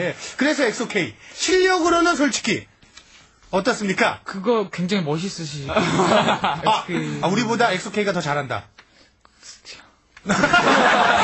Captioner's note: whispering